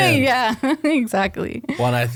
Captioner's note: laughs